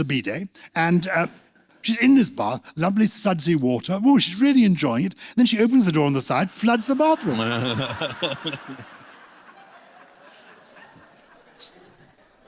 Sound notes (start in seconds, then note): 8.9 laughter